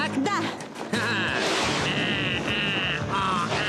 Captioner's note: roaring